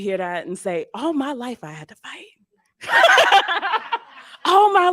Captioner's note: laughs